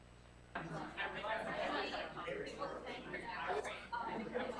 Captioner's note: crowd chatter